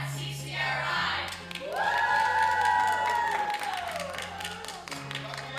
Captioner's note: cheers and applause